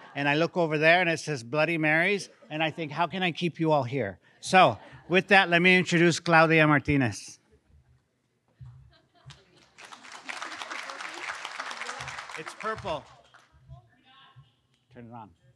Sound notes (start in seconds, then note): 4.6 laughing; 9.6 audience applauds